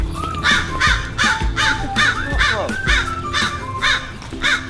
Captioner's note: crow cawing